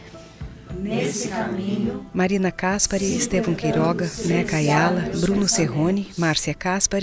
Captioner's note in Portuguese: todos recitam